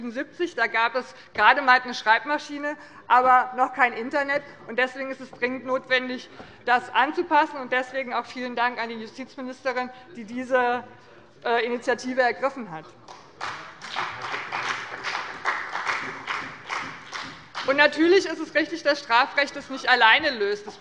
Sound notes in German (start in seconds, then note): 13.0 Beifall bei dem BÜNDNIS 90/DIE GRÜNEN und der CDU